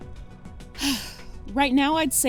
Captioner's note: sigh